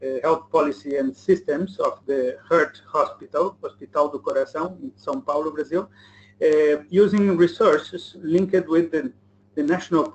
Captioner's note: speaking Brazilian